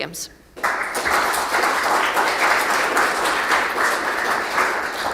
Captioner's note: attendees clapping